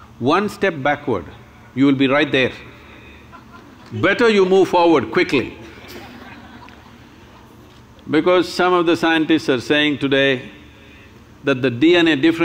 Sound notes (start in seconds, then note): 5.7 laughter